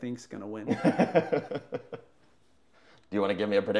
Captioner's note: laughing